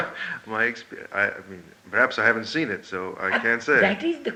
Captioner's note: laughs